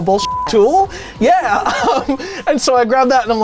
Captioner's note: beep; laughs